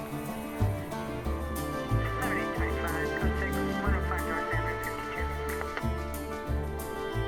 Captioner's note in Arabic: ثرثرة عبر راديو الشرطة